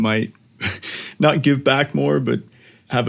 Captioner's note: laugh